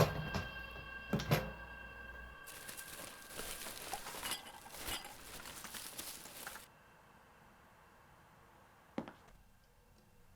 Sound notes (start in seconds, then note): 2.4 garbage rustling